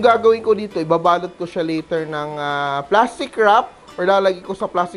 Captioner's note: sizzle